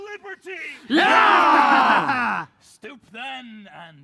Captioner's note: cheering